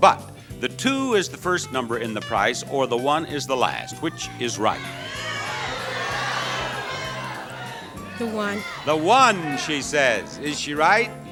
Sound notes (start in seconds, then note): 5.1 audience yelling